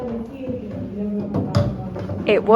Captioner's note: background chatter